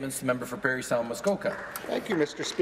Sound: applause

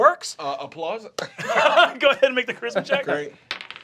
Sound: chuckling

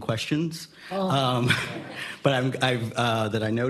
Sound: laughing

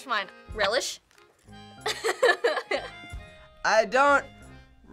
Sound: laughs

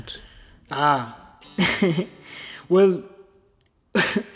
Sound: laughs

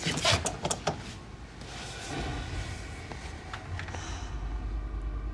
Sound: sighs

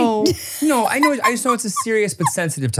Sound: laughs

